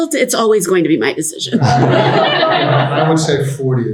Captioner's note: audience laughing